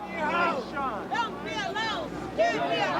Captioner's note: crowd